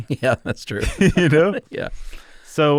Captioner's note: laughs